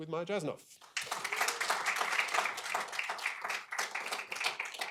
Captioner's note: applause